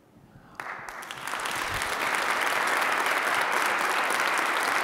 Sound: audience applauding

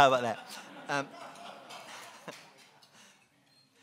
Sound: laughing

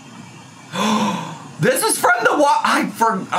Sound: gasps

